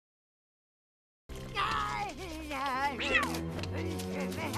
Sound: vigorous cleaning and evil jabbering

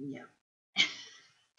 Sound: laughs

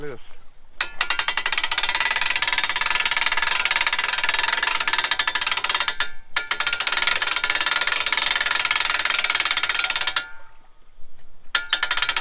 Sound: winch boat sounds

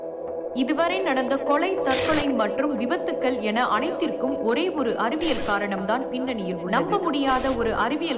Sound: TV Chatter

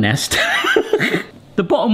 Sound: laughs

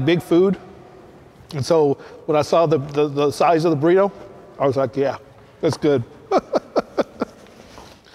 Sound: laughs

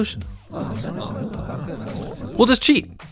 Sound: crowd mutters in hopeful horror

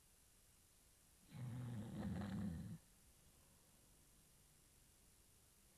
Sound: snoring

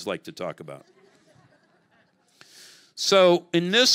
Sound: congregation laughing

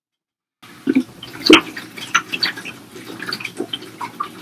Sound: glug glug

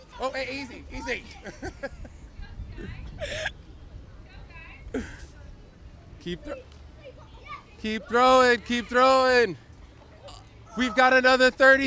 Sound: laughs

